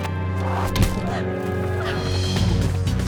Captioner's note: thud; fast-paced music